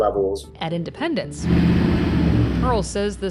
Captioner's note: bus engine revving